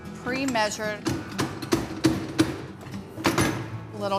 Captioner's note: pounding